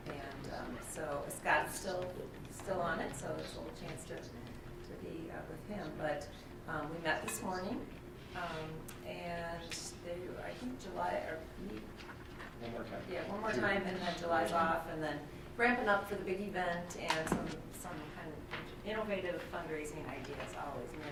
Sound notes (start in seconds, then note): none